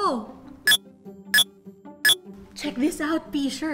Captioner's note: Mind-blower beeps